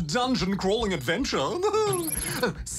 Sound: chuckles

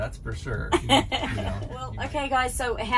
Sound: laughing

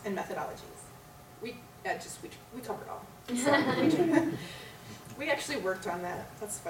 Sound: laughter

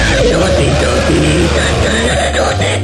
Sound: shreds his vocal chords one last time

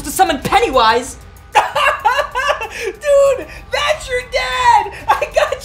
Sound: laughs

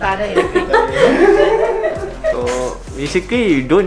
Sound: laughs

